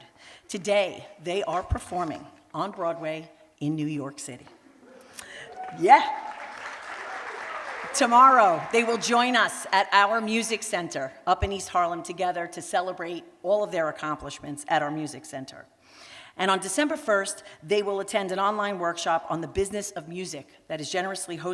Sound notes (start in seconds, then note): 5.2 applause